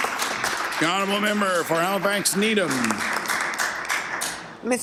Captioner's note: applause